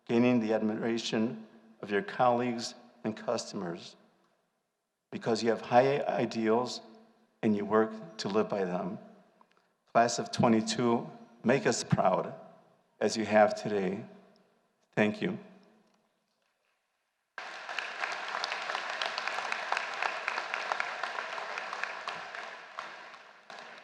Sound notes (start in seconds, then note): 17.3 applause